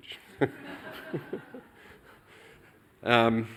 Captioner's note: laughter